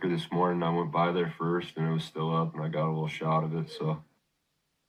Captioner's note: baby crying in background